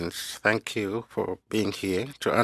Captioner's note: speaking French